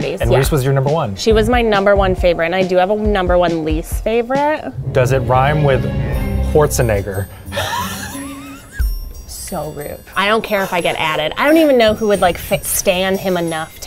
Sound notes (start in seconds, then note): 7.4 laughs